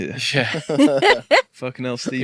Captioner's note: people laughing